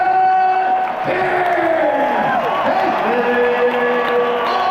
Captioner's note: audience cheering